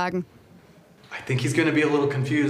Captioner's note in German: englisch